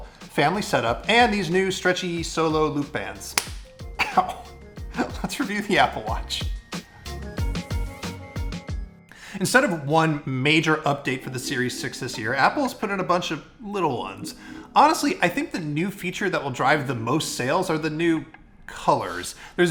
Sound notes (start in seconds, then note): 3.3 band snapping; 6.9 upbeat music